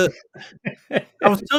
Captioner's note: laughing